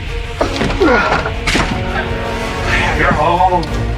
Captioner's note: Hawk grunts